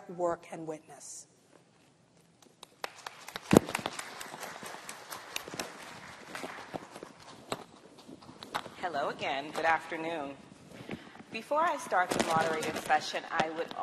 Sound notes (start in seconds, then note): 2.6 applause